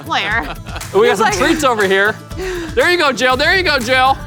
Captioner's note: laughs